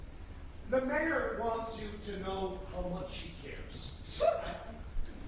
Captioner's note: snicker